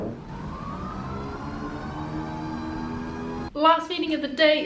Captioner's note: motor hums